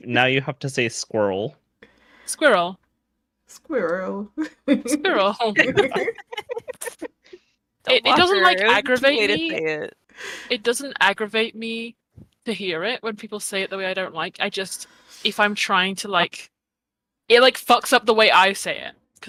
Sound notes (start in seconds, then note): 3.9 english accent; 4.4 giggles